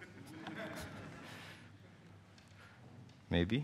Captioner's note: laughing